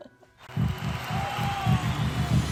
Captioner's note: chuckles; crowd cheering